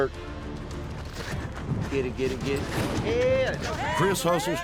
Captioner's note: footsteps